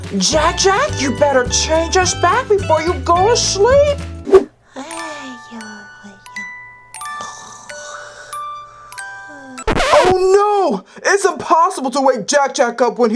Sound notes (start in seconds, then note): 4.4 snoring; 4.6 gentle lullaby music